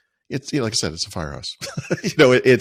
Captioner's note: laughing